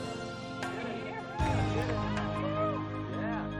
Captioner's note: people cheering